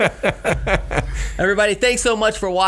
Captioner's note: laughing